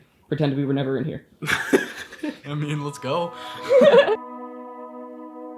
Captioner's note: laughs